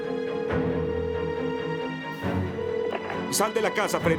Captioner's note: phone ringing